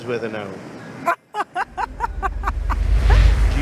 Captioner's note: laughs